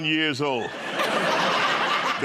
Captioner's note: laughter